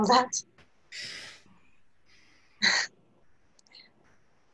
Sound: chuckles

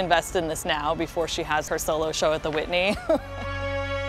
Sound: laughs

